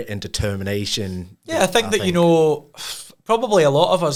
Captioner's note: scoffs